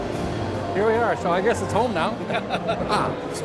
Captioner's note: laughter